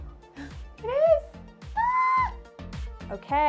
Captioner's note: squeals joyfully